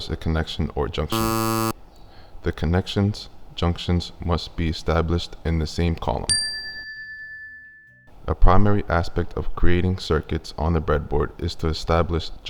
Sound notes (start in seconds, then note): 1.1 buzzer Sound Effect; 6.3 chime Sound Effect